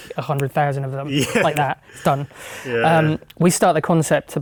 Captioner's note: clicking fingers